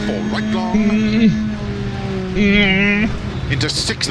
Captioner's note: worried groan